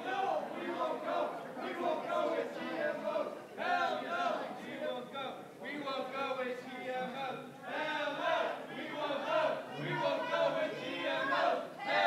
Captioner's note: protestors chanting